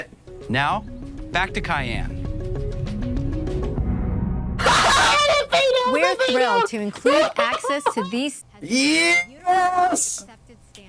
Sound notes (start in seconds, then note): 4.6 laughs in poor fade out